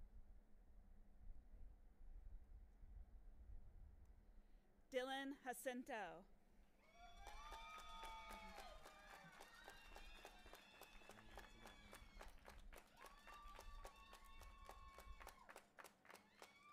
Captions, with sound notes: - Dylan Jacinto. (audience applauding and cheering)